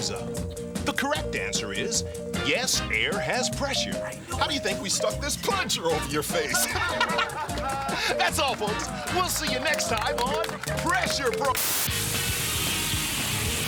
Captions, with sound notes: THE CORRECT ANSWER IS, "YES, AIR HAS PRESSURE." HOW DO YOU THINK WE STUCK THIS PLUNGER OVER YOUR FACE? [ LAUGHS ] THAT'S ALL, FOLKS. WE'LL SEE YOU NEXT TIME ON "PRESSURE --" [ UPBEAT ROCK MUSIC PLAYS ]